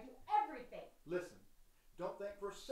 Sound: arguing continues in distance

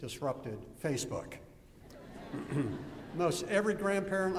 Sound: laughter

